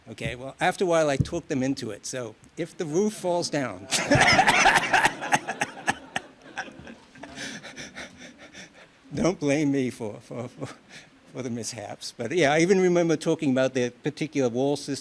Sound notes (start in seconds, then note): 3.8 laughs